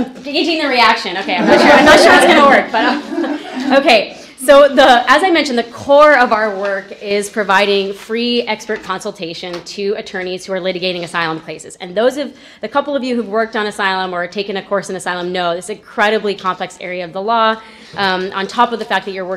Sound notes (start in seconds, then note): 2.7 laughter